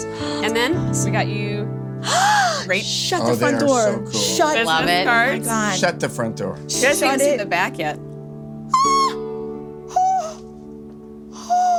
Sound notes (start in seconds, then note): 2.0 gasps; 8.7 she squeals